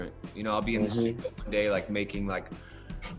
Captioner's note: audio breaks